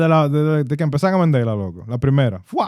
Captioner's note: speaking Spanish